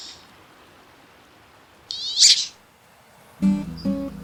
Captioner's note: high-pitched duck quack